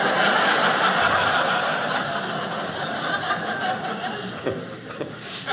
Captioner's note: audience laughing